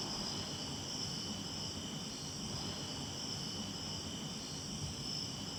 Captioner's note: crickets chirping